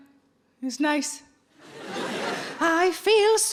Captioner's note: audience laughing